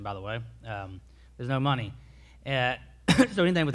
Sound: coughs

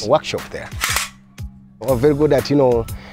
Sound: cocks gun

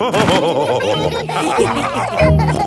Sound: all laughing

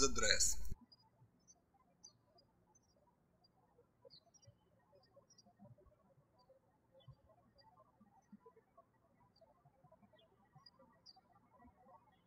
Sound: birds chirping

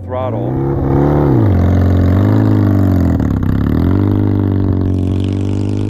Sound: motorcycle engine accelerating

